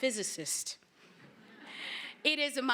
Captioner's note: laughter